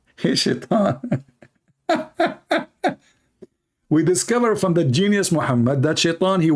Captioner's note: Ketawa